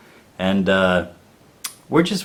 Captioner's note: clicks tongue